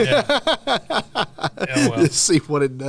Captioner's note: laughter